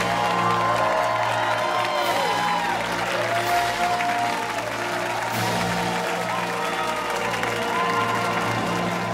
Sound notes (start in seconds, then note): 0.0 fanfare playing; 4.4 cheers and applause